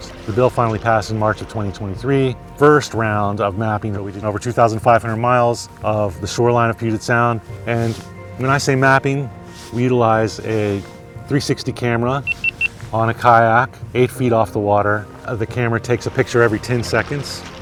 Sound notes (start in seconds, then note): 12.2 beeps